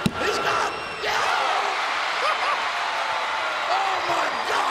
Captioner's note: crowd cheering